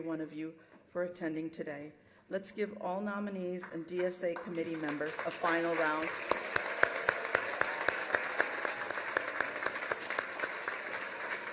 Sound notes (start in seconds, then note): 6.4 applause